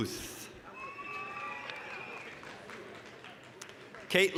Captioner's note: applause, cheering